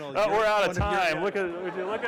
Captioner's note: laughter